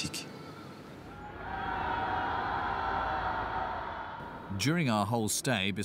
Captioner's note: people cheering